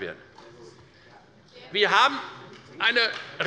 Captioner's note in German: Beifall der Abg